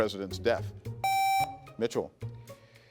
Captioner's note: contestant beeping